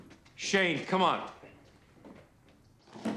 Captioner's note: footstep